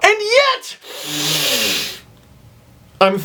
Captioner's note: inhales deeply